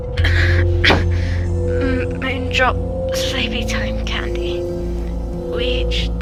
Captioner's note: coughing